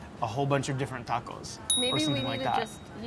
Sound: buzzer pinging

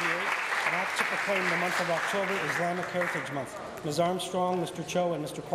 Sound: applause

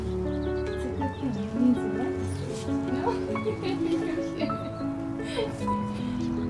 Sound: laughter

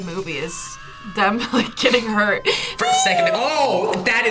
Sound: laughs

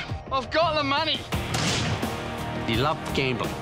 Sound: gun fires

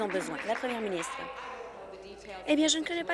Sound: applause

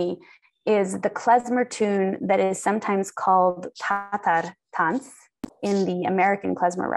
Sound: non-english

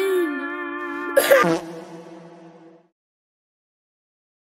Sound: coughs and dies

